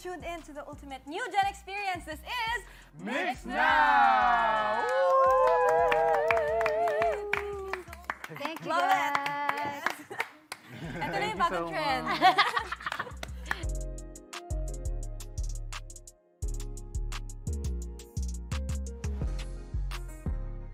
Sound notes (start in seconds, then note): 4.9 cheers, claps; 13.6 upbeat music playing